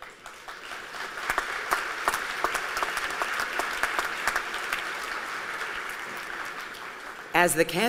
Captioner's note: applause